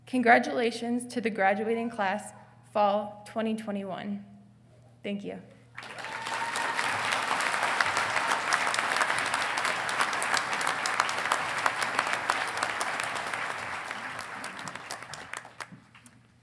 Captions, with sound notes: Congratulations to the graduating class fall 2021. Thank you. (congregation clapping)